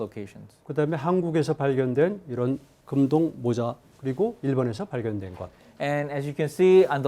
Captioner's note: speaking in Korean